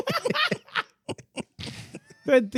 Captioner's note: laughing